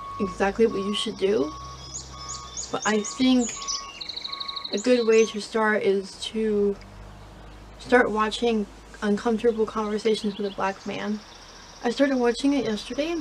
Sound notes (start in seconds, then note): 3.1 bird chips in the background